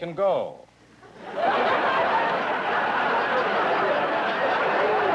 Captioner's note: laughter